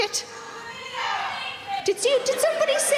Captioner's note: audience member shouting out